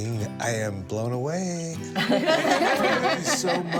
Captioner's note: laughter